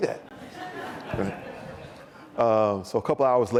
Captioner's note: audience laughs